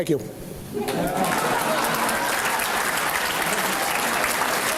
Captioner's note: applause